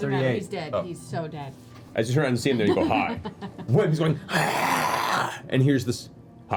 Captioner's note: hisses